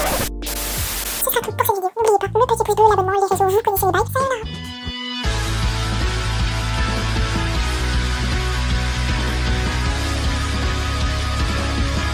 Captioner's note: laughs